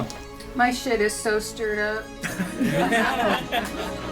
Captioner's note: class laughs; dramatic symphonic music